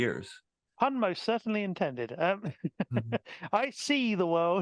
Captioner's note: laughing